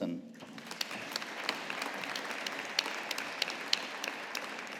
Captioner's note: audience applauding